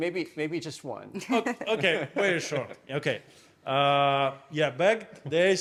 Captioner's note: laughing